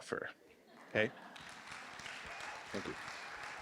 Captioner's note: applause